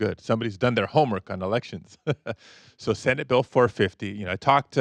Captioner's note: chuckles